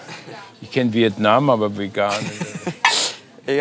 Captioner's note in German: Sie lachen